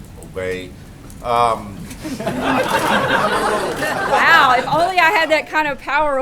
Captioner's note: laughter